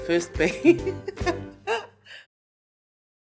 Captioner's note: laughs